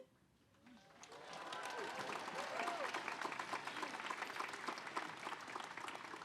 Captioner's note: audience applauding; audience cheering